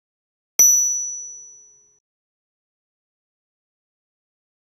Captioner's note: bell chiming